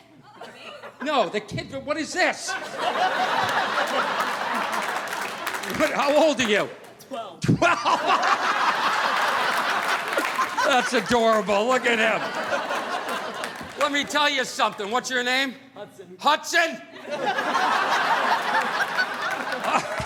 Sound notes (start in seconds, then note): 7.5 laughing; 17.0 audience laughing